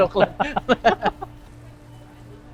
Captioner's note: laughs